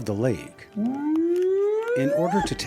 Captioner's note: bigfoot whooping